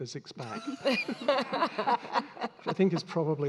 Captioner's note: all laughing